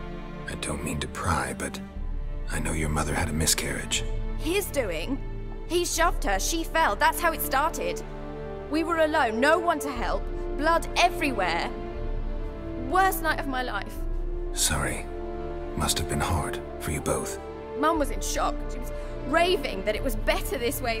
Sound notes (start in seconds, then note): none